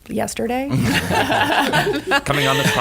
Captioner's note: laughter